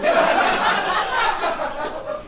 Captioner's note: audience laughs